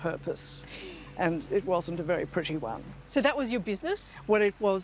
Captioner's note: laughs